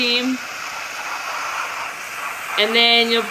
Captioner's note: steam hissing